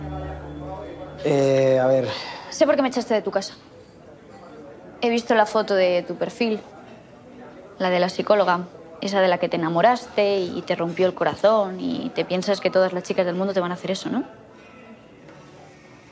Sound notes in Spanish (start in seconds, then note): none